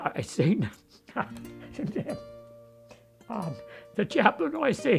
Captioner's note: speaks faintly